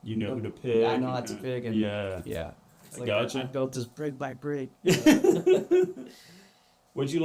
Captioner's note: laughter